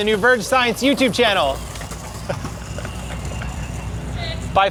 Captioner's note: laughing